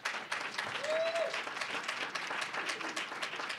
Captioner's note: applause